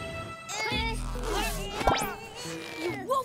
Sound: groaning

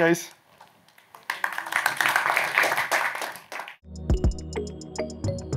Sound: applause

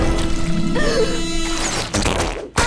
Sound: gasping; squeaking

